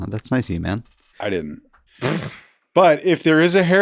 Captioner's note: laughs